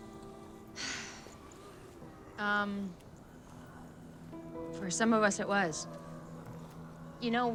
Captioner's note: sighs